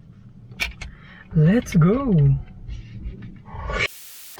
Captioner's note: swooosh